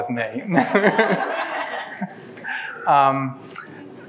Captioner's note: laughs